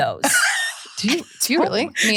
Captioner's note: laughs